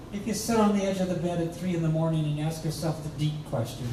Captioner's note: none